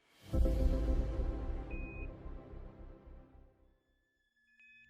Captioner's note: beeping